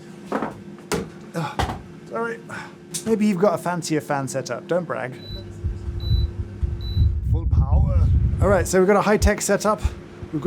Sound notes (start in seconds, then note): 6.3 fan blowing